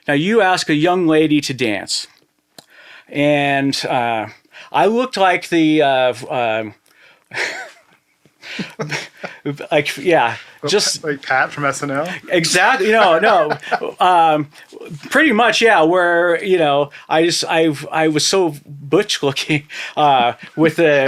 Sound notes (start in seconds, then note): 5.9 chuckling; 12.7 laughing